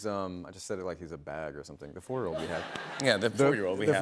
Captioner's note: laughter